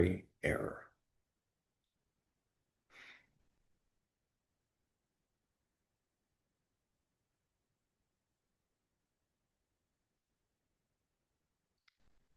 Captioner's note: pause